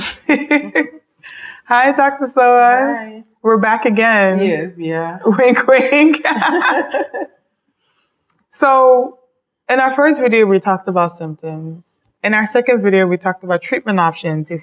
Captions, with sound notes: (laughs) Hi, Dr. Sowah. - Hi. - We're back again. - Yes, we are. - Wink, wink. (both laugh) So, in our first video we talked about symptoms. In our second video, we talked about treatment options